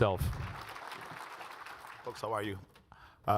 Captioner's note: audience applauds